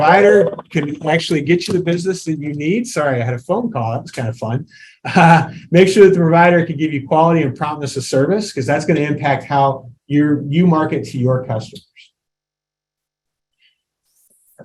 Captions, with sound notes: the provider can actually get you the business that you need, sorry, I had a phone call, that was kind of fun. (chuckles) Make sure that the provider can give you quality and promptness of service, 'cause that's going to impact how you market to your customers.